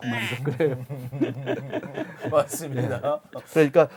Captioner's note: hahahah